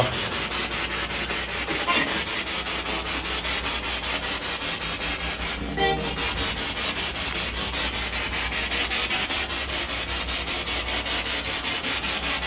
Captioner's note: radio noise from the spirit box